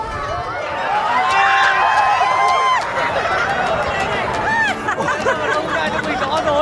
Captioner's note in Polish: Aplauz